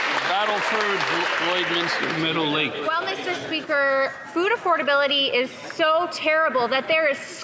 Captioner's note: some Applause